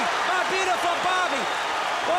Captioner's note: crowd cheering